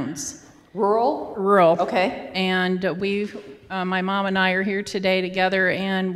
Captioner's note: voiceover